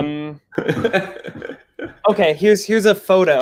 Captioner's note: laughs